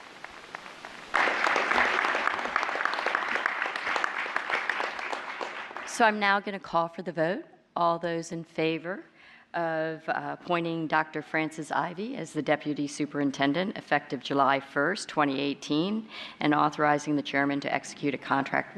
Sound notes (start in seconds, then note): 0.2 applause